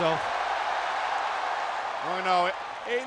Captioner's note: audience cheers